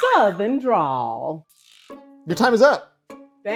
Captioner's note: buzzer boing